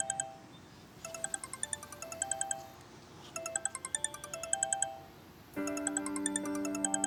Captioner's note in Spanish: Suena el celular